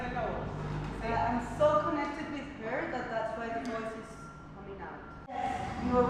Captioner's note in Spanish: repite la misma frase anterior en inglés